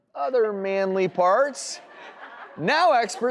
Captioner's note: audience laughs